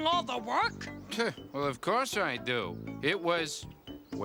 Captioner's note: scoffs